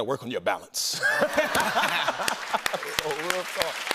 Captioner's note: laughter